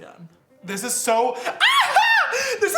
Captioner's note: screams